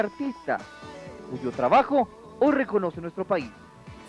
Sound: speaking Spanish; speaking Spanish

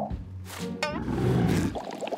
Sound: growling

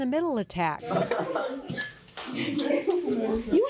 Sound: students laughing

